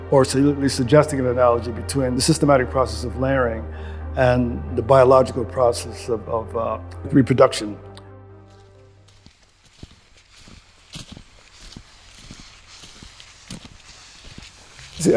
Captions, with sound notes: or suggesting an analogy between this systematic process of layering and the biological process of reproduction. (footsteps approaching) (leaves rustling)